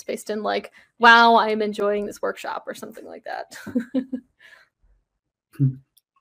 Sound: laughs

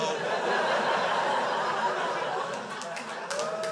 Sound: crowd laughs

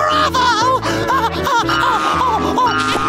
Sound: cheering; laughing

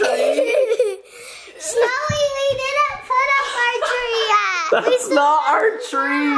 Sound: laughing

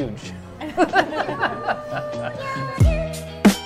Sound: laughing

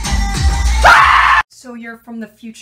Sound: screams

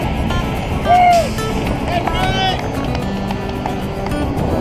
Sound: firefighters clapping

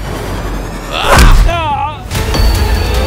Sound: screams

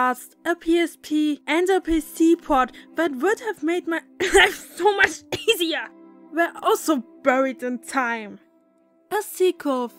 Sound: cough

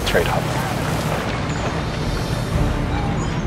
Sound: seaside chatter; seabirds calling; dramatic music

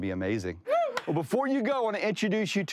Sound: screams

